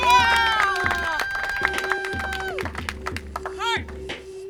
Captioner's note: audience cheers